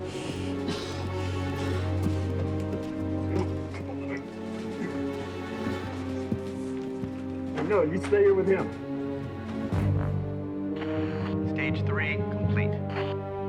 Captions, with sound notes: (coughing) (dramatic music) No, you stay here with him. - Stage three complete.